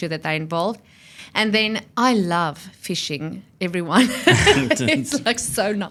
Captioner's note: laughs